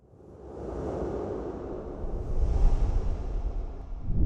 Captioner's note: air swooshing